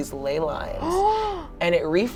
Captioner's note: gasps